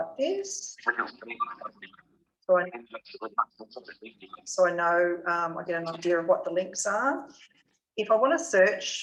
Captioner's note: JAWS screen reader speaks quickly